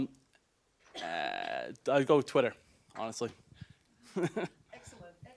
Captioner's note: laughter